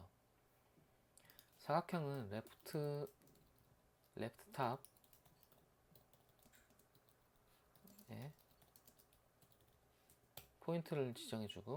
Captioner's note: typing hard